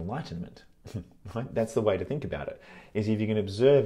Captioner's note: chuckles